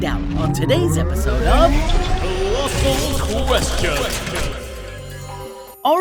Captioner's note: low echoing voice